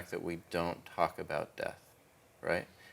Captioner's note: none